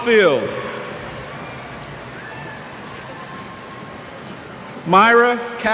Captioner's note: cheers